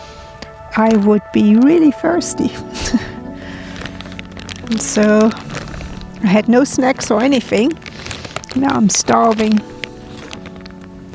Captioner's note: laughs